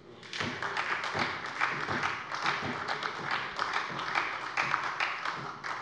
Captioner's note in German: Beifall bei der SPD